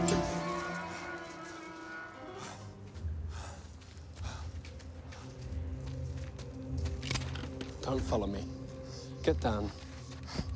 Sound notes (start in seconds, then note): 0.0 gate creaks; 3.0 husband pants; 6.6 gun cocks